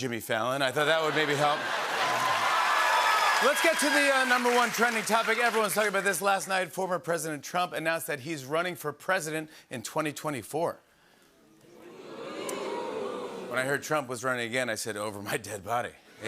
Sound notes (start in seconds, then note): 0.9 cheers and applause; 11.7 audience "Oohs"